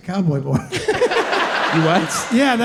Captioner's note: audience laughing